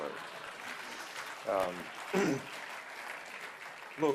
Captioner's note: laughter and applause